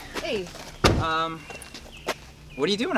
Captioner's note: door closing